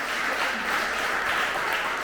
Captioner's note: applause